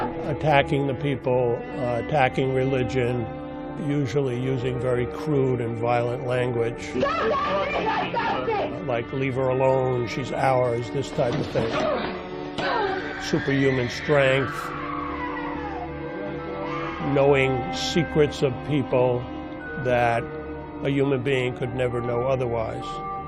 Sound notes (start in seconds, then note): 0.0 shouting; 7.5 shouting; 15.2 screaming